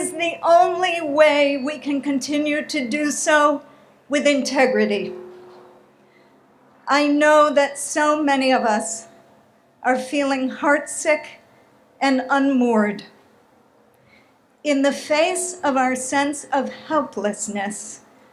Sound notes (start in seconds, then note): none